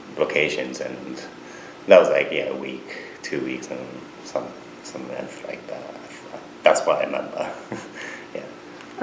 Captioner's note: laughs